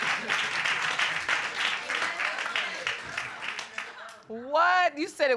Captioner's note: audience murmuring